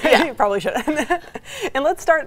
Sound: laughs

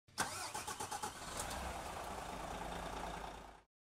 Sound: engine starts

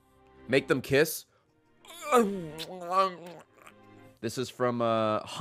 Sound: kissing ? noises ?

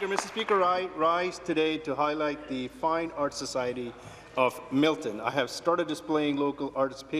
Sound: cheers and Applause

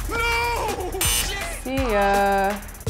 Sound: beep

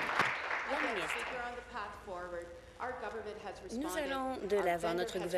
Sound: applause

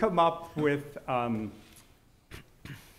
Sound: laughing

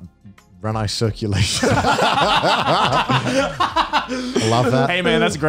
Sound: laughs

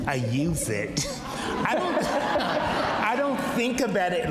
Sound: audience laughs

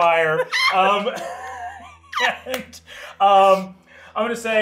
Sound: participants laughing

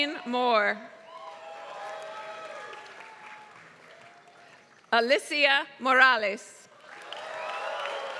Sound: applause; applause

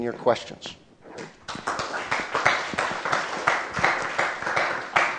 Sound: applause

